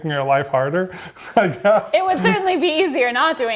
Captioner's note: laughing